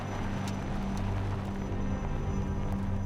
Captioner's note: aircraft noise